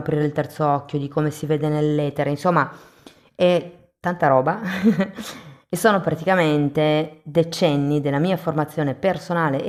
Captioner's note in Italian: risate